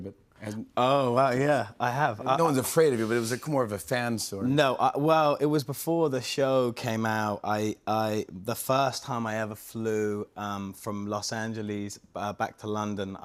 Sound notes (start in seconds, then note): none